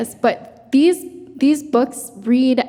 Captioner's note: none